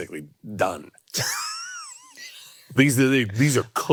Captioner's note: Hank laughing